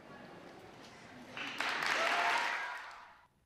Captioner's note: applause